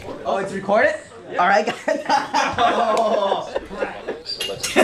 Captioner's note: laughs